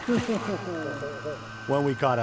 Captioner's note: guys laughing